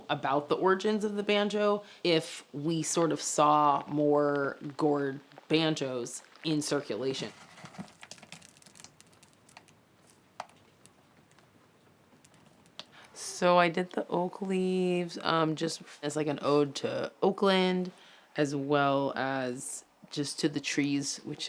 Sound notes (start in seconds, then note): 7.2 contents of the gourd patter